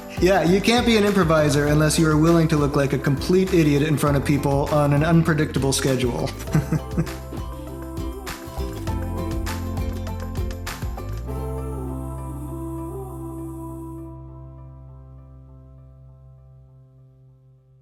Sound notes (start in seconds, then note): 6.5 laugh